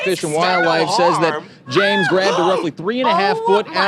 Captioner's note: screams